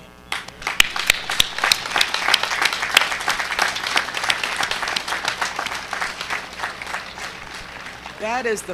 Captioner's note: applause